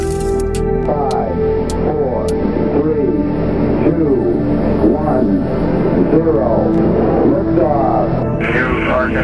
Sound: radio voice 2

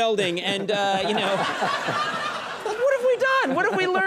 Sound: Ken and the audience laugh

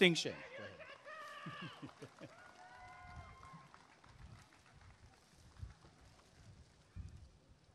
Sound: applause and cheering

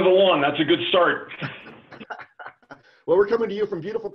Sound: laughing

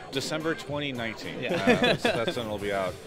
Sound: laughing

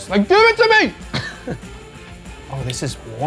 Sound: giggles

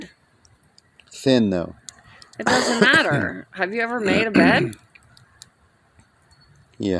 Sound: coughs; laughing

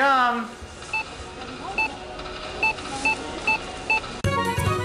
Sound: checkouts beep

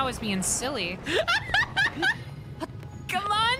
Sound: laughter

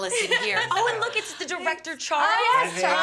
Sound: laughter

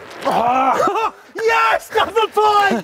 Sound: groans in anger; celebratory laughing

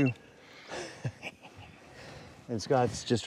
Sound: laughs

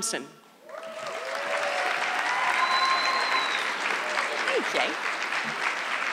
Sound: audience clapping

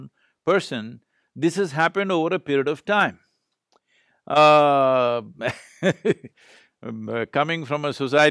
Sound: laughs

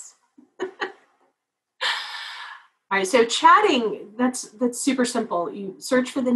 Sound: laugh

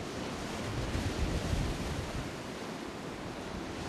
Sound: ocean surf roaring

